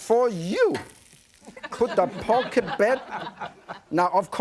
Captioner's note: audience laughing